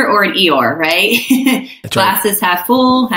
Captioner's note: laughing